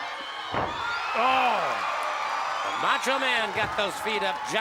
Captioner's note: crowd cheers